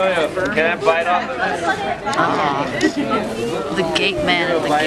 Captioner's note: laughs